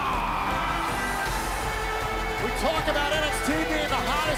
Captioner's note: crowd cheering